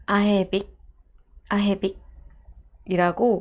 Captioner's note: Arabic